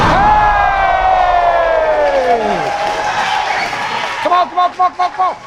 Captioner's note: spectators applauding